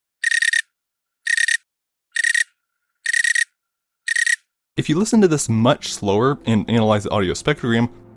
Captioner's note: cricket audio